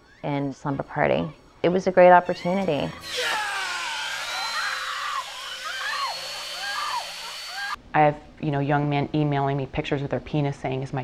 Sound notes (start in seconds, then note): 2.3 screaming